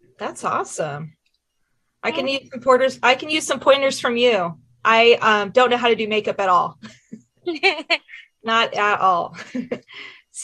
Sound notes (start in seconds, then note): 7.4 chuckles; 7.4 laughs